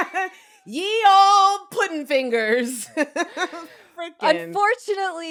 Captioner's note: laughs